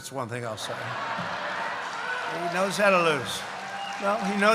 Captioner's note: laughter; applause